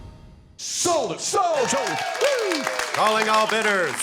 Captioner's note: cheers and applause